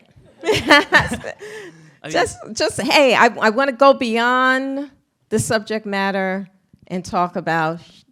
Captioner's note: laughs